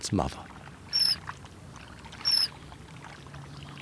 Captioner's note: chirping